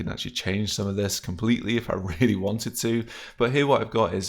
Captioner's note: chuckles